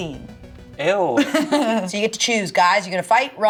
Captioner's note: laughs